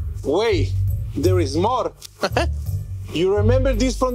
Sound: chuckling

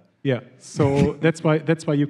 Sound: laughs

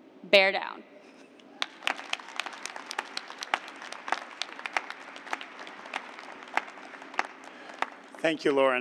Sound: applause

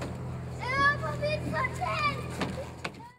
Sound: child shouting

